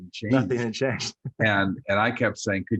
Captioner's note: laughs